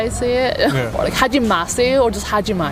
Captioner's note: speaking in Korean